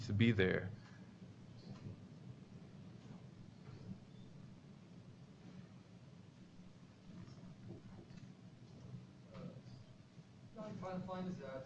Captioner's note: pause